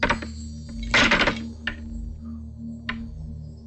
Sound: door rattles

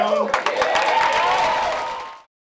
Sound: applause

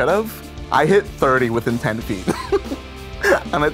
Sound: laughs

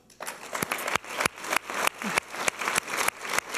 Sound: applause

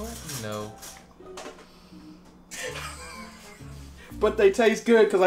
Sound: laughs

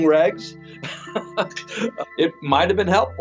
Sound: chuckles

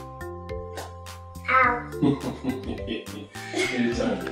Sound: chuckling

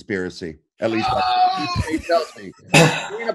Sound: laughs

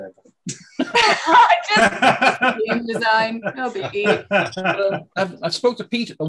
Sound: laughing

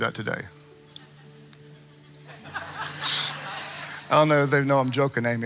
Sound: congregants laughing

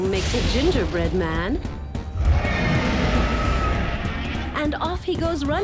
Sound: roars

